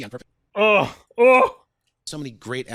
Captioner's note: audible cringe